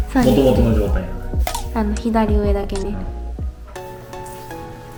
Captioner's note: laughs; laughs